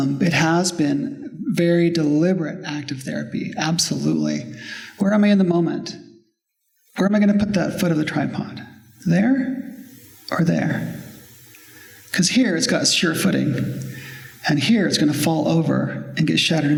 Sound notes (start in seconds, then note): none